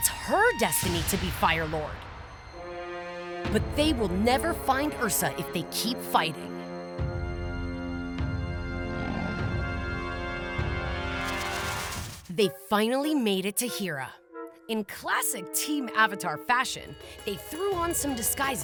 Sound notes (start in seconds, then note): none